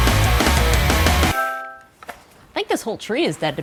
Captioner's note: device chimes